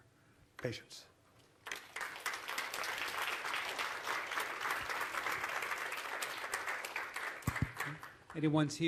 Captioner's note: applause